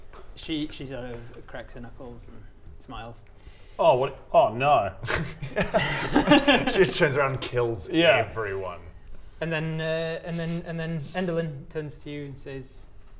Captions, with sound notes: She sort of cracks her knuckles and smiles Oh wait...oh no! *suspicious laughter* She just turns around and kills everyone And then er and then and then Endelyn turns to you and says